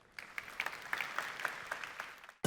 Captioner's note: applause